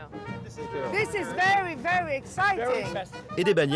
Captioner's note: speaking in English